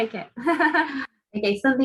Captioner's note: laughs